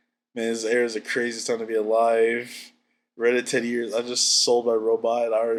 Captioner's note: laughs